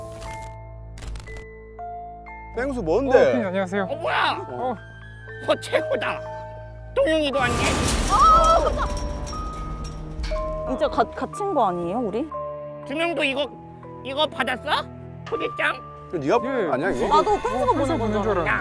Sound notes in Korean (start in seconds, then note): 7.4 쾅!